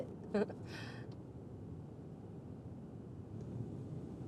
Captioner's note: Kimberly chuckles